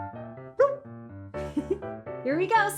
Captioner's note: giggles